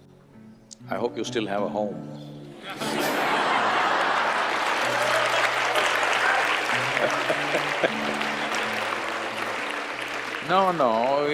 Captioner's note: laughter/Applause